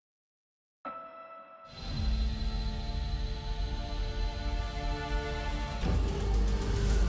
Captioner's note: ship whirring; dramatic music